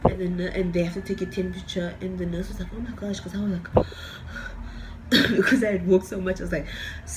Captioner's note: breathing heavy